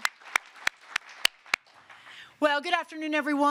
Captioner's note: applause